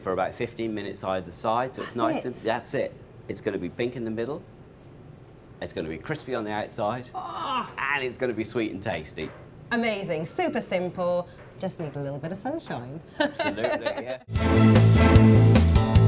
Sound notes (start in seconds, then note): 7.1 exclaims; 13.2 laughs